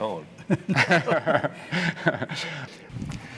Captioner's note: laughter